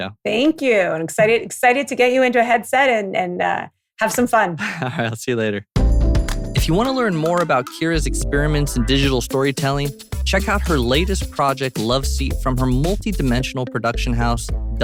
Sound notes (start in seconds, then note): 4.6 laughs; 5.8 music outro